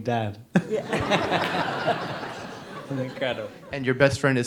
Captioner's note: audience laughs